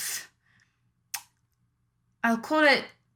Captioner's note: lip smacks